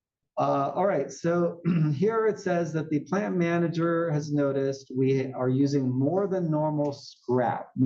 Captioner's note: cough